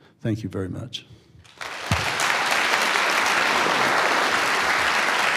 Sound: audience applauds

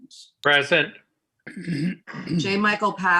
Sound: clears throat

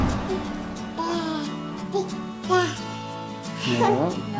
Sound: baby talk

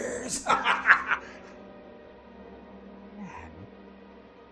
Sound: laughs

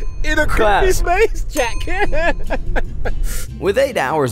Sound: laughs

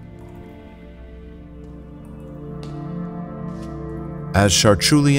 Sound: sounds of dripping water in a stone room

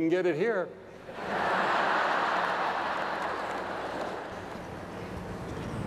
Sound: laughter

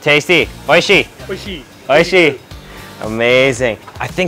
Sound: speaks in foreign language

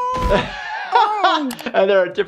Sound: laughing

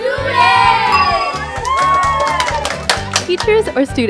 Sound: cheers

